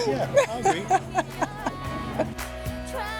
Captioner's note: laughs